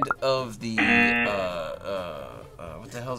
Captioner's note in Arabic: طنين الجرس